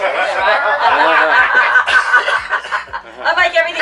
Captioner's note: laughter